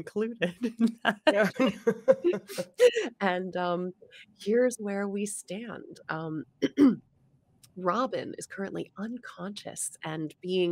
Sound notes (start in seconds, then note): 6.6 clears throat